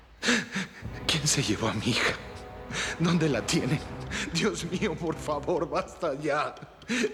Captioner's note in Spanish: Solloza y piensa